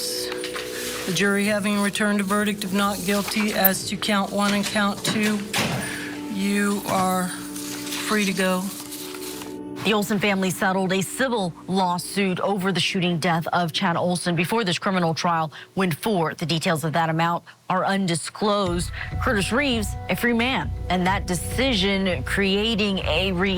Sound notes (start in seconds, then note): 8.2 quietly